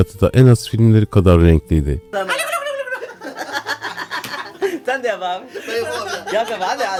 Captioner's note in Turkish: kahkaha